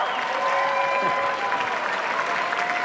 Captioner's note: cheers, applause